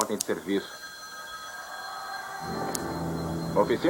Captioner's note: phone rings